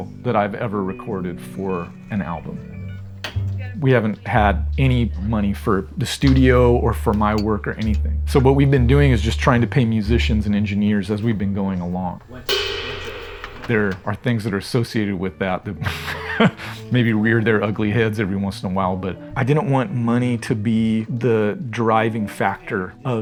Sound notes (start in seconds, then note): 12.4 cymbal crashing; 15.8 chuckles